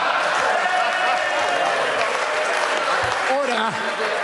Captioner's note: members applaud